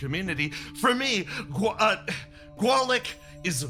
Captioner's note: stutters